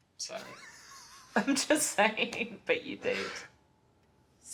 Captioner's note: laughing